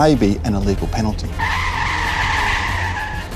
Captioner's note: tyres screech